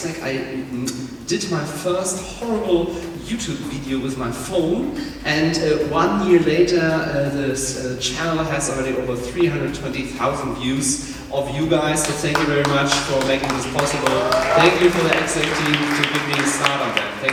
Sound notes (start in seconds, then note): 14.0 applause